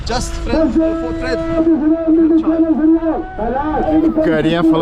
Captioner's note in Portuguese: Homem falando ao microfone no fundo